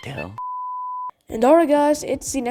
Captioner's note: beep